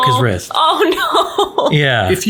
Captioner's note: laughs